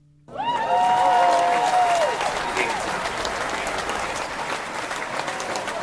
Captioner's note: cheering and applause